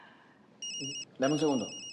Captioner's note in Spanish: Suena el celular